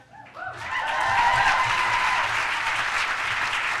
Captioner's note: applause